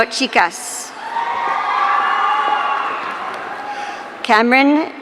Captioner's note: audience cheering